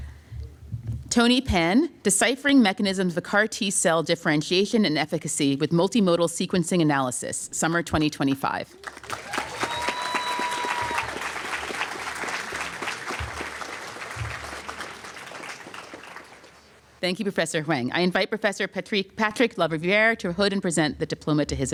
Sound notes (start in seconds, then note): 8.3 applause